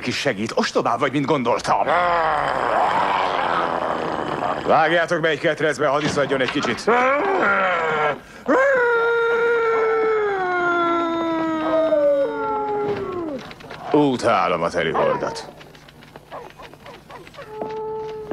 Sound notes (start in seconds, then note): 1.8 werewolf roaring; 7.2 grunts and groans; 11.1 werewolf howling; 14.7 barking, howling